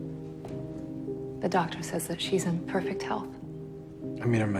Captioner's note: voiceover